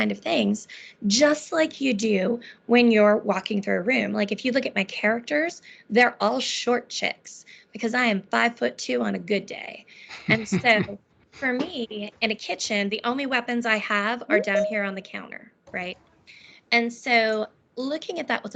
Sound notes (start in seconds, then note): 10.1 laughing; 14.3 beeping